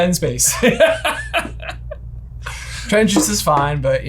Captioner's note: laughs